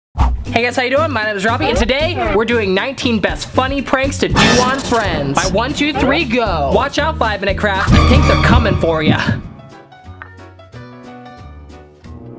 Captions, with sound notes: - Hey guys how are you doing? My name is Robbie and today we're doing nineteen best funny pranks to do on friends. (spooky sound effect) 1 2 3 Go. Watch out 5-Minute Crafts I think they're comin' for ya. (upbeat music)